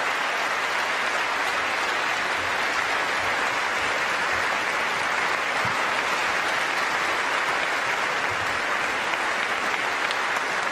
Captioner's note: applause